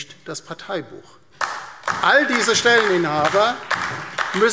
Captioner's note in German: Beifall DIE LINKE und vereinzelt SPD